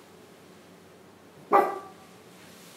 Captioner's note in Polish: szczeknięcie psa